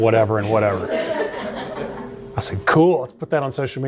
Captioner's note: laughter